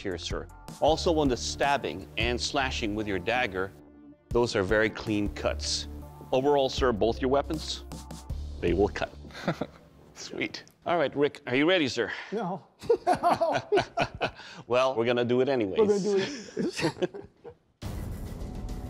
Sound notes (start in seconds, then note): 9.3 laughs; 12.8 laughter; 15.9 laughter